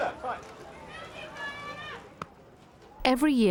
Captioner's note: crowd clamoring